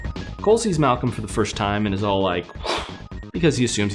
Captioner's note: whoosh